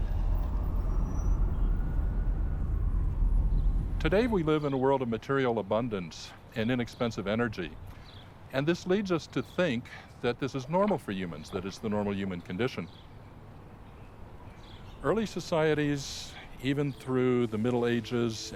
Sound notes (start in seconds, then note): 0.0 siren wails; 1.0 traffic hums